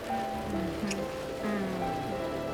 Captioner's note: audrey moans softly